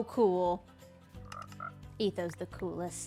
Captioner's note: frog sound